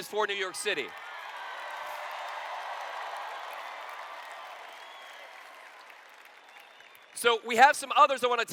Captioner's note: cheers